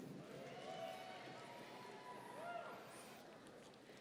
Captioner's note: audience cheering